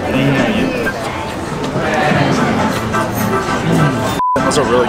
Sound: diners murmuring; upbeat music

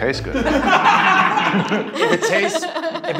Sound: laughing

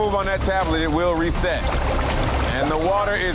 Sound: water gurgling

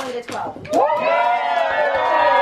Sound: crowd; claps

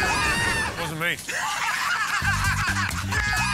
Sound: laughter

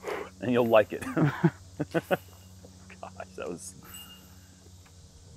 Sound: chuckles

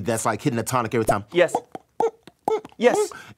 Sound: mouth pops

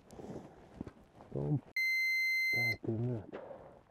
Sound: peep

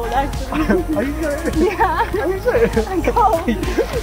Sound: laughing

